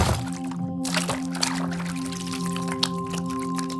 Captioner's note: water splashing